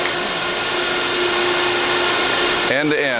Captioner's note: machine noise